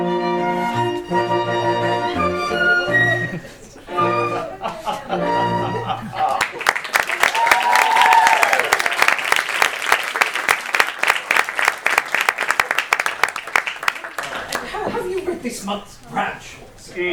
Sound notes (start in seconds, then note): 6.3 applause